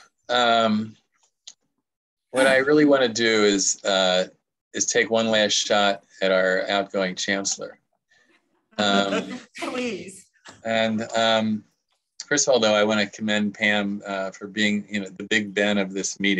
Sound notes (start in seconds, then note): 11.2 laughter